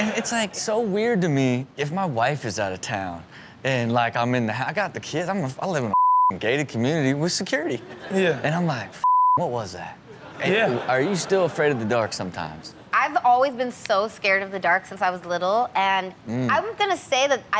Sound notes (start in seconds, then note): 5.9 beep; 9.0 beep; 10.2 audience laughs